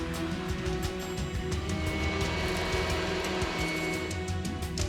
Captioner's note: machine whirring